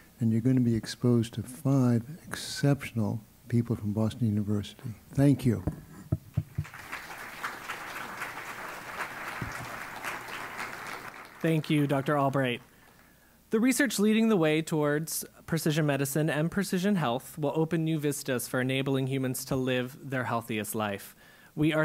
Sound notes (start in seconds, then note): 6.4 applause